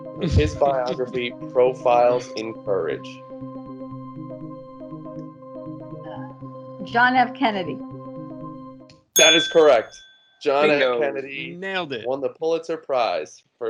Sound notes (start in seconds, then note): 3.3 game show music continues; 9.2 snap and bell ding